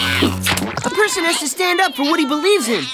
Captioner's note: screaming